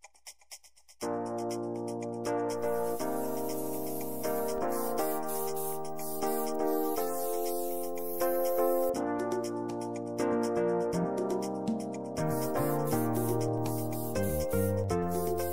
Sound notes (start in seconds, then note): 1.1 upbeat music; 2.5 spraying paint; 9.1 upbeat music; 12.1 spraying paint